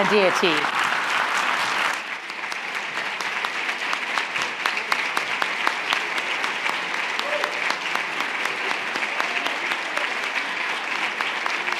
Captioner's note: applaud